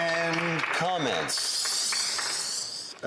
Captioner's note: some Applause